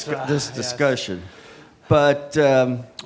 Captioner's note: audience laughing